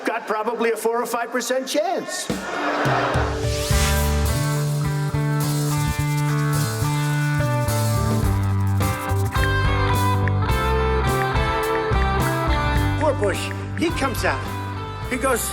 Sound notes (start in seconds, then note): 2.8 upbeat music; 5.9 brush scraping; 10.2 ticking